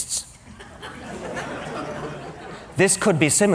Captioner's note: laughter